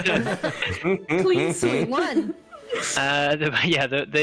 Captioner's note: more laughter; still chuckling